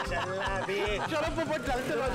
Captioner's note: laughing